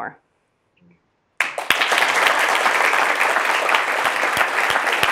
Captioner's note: audience applauds